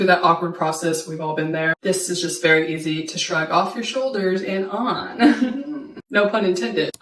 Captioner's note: laughs